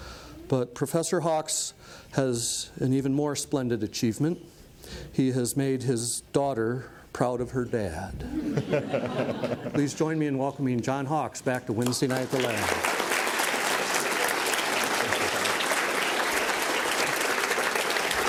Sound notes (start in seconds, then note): 8.2 audience laughs; 11.8 applause